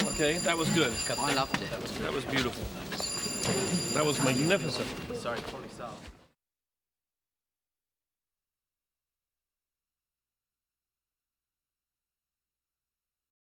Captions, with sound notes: - [Bell Ringing] - Okay, that was good. That was beautiful. - [Ringing Continues ] - That was magnificent.